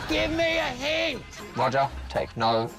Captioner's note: yells